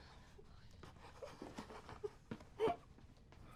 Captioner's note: crying